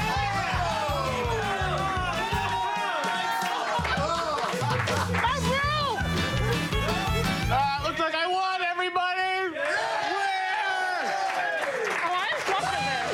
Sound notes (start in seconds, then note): 2.2 applause